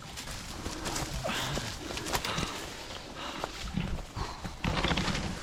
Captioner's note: underbrush rustling